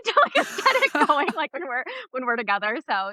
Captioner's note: laughs